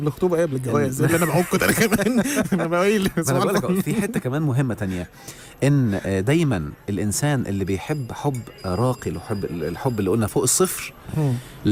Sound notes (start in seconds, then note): 1.0 laughs!; 1.0 laughers